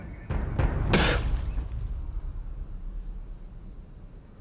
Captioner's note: spits